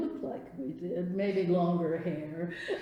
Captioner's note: laughs